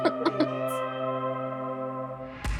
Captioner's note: laughs